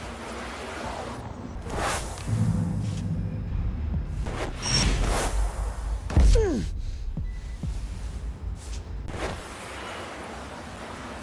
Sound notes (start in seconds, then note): 0.0 suspenseful music; 6.3 grunting; 10.0 suspenseful music